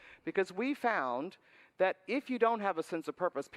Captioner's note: none